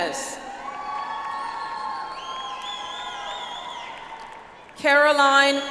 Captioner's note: audience applauds